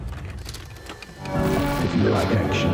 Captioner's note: VCR whirring